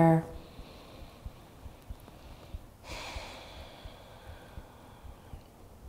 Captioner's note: inhaling and exhaling deeply